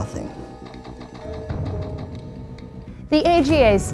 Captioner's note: slot machine rolling